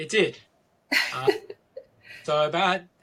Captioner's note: laughing